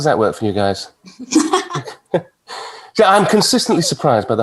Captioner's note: everyone chuckling